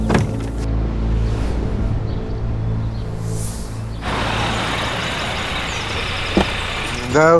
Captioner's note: car sounds